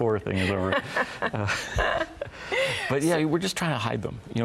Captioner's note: both laughing